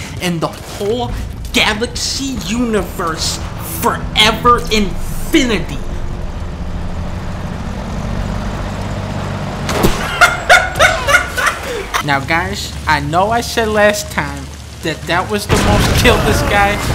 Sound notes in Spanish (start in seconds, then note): 10.0 Risa de Dunkey™